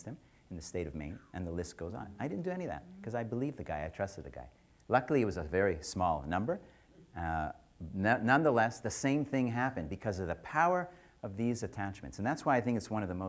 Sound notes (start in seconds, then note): none